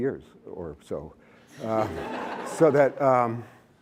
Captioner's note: laughter